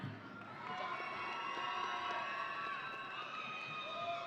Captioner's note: audience cheering